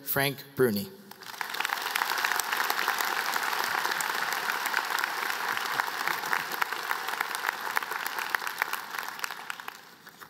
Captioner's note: applause